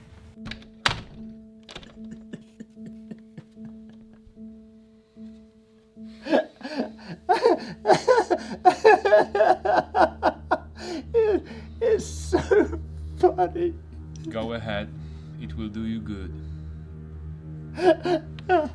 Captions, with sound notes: [ begins to sob hysterically ] It's so funny. Go ahead. It will do you good.